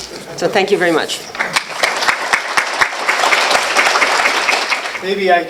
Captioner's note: applause